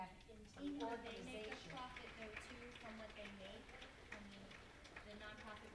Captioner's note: applauding drowns out panelists speaking